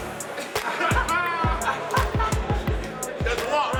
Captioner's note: hip hop music; laughter